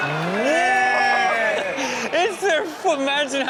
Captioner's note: audience laughing; Rob exclaiming; laughing